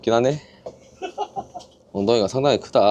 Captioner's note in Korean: 웃음